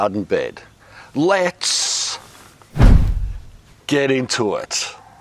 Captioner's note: arm whooshing